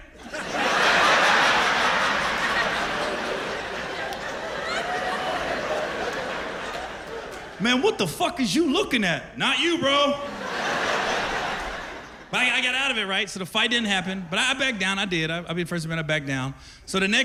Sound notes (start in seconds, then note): 2.4 laughter; 10.1 laughter